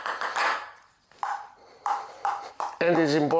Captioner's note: ball tapping